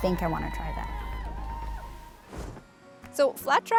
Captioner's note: group cheering